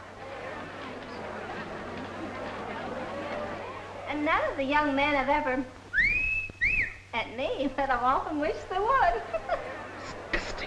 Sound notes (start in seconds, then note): 5.9 whistling; 9.0 giggles